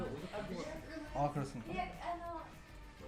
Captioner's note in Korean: 잡담 중